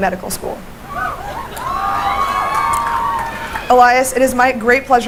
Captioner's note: cheering